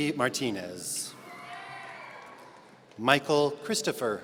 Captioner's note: audience cheering